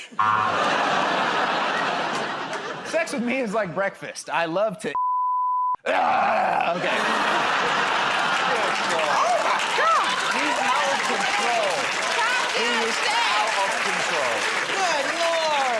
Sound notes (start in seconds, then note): 0.2 buzzer; 5.8 grunts